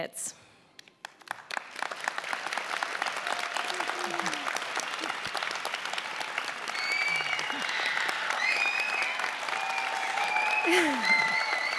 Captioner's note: applause and cheering